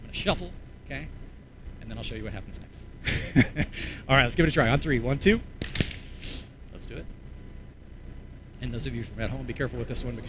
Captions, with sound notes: I'm going to shuffle. And then I'll show you what happens next. All right, let's give it a try. On Three. 1, 2. [CLAPS] Let's do it. And those of you at home, be careful with this one